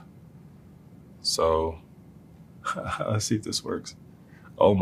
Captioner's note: laugh